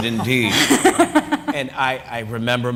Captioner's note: laughter